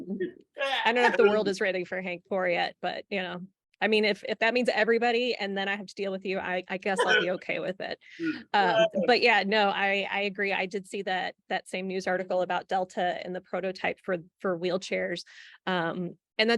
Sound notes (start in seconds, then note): 8.7 laughs